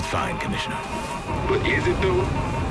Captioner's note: flames whooshing